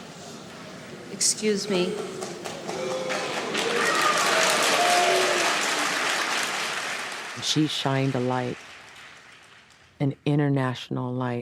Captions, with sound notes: Excuse me. (audience booing) (audience applauding) - She shined a light, an international light on